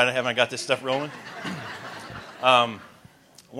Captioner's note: laughter